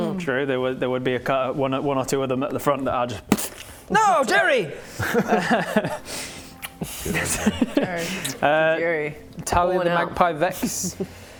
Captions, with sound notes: True, there would be a cou- one or two of them at the front that are just *splat!* No! Jerry! Good ol' Jerry. Jerry. *kiss* Jerry - Talia "the magpie" Vex. - Pour one out.